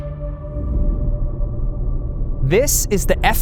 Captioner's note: ominous music; jet hovering